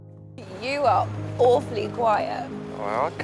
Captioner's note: voiceover